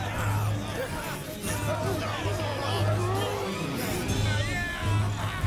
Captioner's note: all cheering